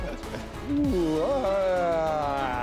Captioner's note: laughing